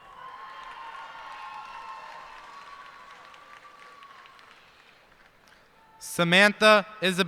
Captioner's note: cheers and applause